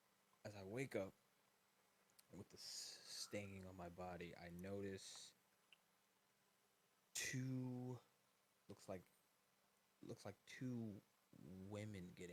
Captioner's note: sucks teeth